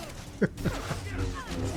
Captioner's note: laughs